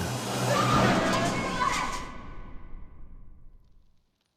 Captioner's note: Pocahontas yelling